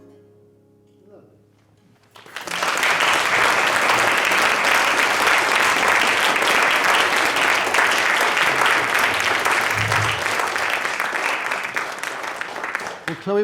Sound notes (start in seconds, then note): 2.1 audience applauding